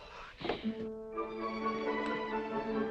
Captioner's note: sighs